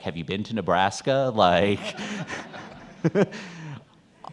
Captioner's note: laughs; audience laughing